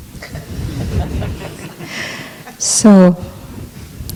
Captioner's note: laughter